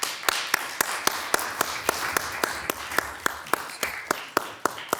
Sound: audience claps

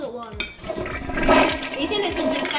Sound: recording of toilet flushing

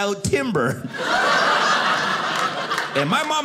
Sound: audience laughing

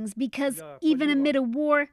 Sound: speaking Foreign Language

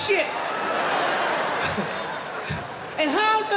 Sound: laughter

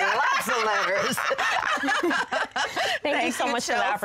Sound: laughing

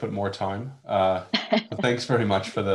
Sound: laughs

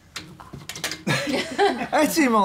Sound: laughter

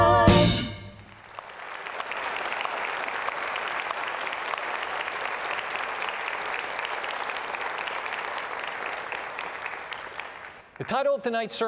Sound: applause

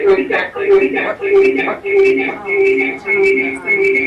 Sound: voice reverberating

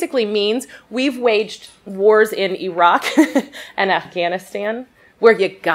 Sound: chuckles

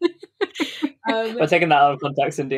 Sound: laughs

